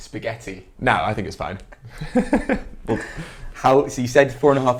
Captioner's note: laughs